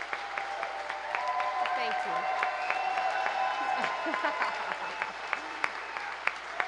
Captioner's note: cheers and applause